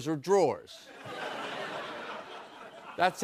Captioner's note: laughter